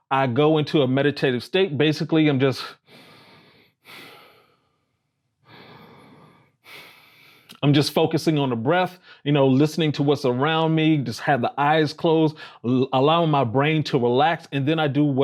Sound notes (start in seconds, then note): 5.4 breathing softly and deeply